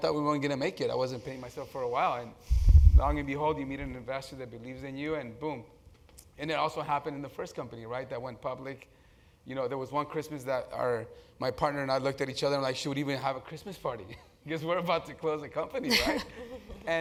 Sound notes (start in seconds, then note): 15.9 laugh